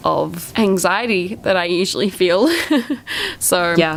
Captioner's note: laughs